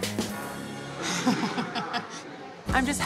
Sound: laughs

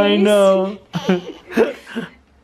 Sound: voiceover

